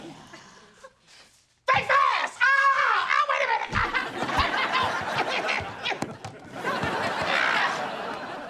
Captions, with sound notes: Think fast! Ahh! Ah, wait a minute, ah! [screaming]